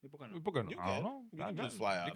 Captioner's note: speaking In Foreign Language